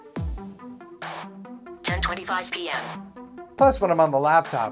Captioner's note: phone VOX